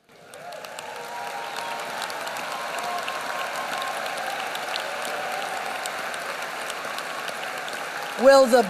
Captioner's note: applause